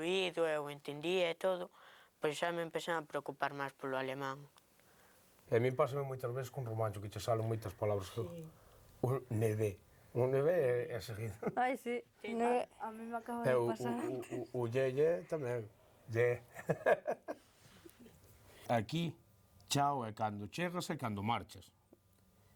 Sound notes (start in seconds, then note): 12.8 laughs